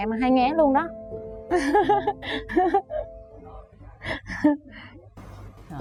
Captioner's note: laughter